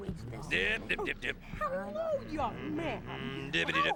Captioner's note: humming to himself